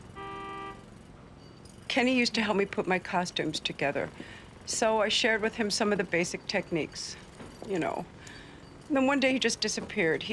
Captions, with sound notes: (car horn honks) - Kenny used to help put my costumes together. So I shared with him some of the basic techniques. You know. Then one day, he just disappeared.